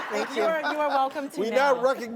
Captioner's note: laughter